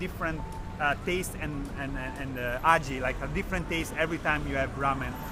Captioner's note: speaks foreign language